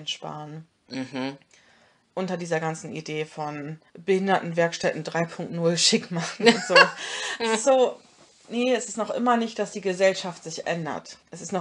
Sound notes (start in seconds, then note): 6.4 both laugh